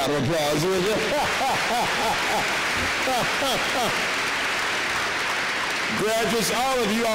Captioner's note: applause